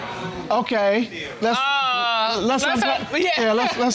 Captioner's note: judge exclaims